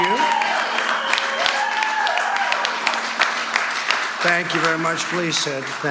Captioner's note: cheers and applause